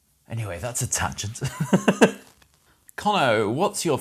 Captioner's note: laughs